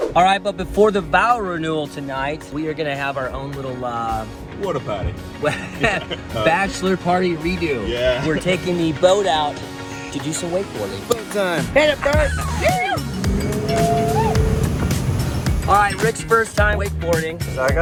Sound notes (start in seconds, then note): 12.1 whooping; 13.8 boat engine roaring